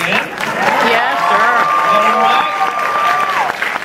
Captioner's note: audience cheers